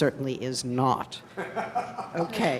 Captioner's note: laughing